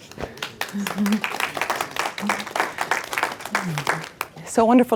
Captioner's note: attendees applaud